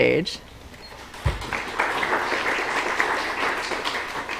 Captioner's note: applause